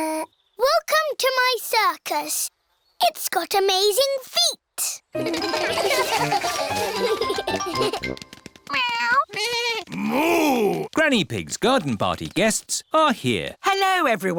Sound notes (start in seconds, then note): 5.1 all giggle